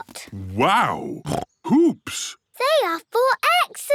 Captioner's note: snorts